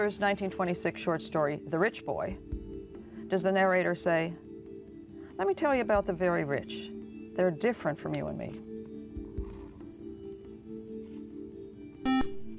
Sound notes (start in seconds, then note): 10.4 buzzer